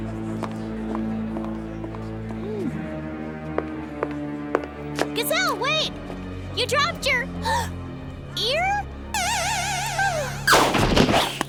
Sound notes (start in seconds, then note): 0.3 dark theme music; 7.4 gasp